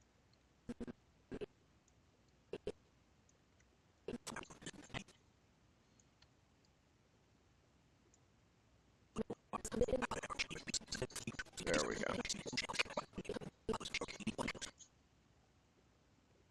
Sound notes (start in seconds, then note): 4.1 audio skipping; 13.5 audio skipping